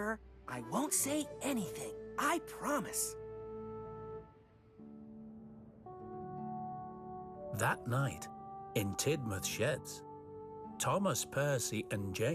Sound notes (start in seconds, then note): none